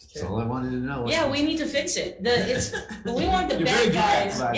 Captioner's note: laughs